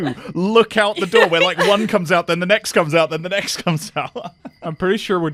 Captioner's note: laughs; laughs